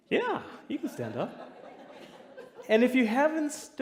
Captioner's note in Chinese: 笑聲